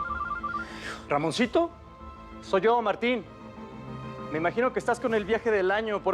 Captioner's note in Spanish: suena el celular